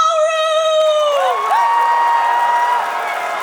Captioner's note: cheering; applause; cheering